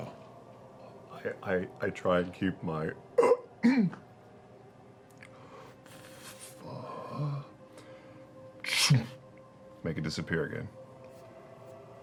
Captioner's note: clears throat